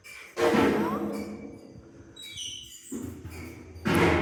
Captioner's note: loud metal clanging